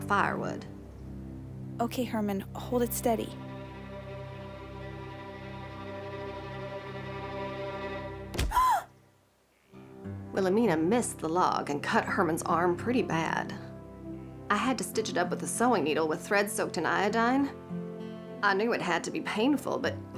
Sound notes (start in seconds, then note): 4.8 tense music; 8.4 gasps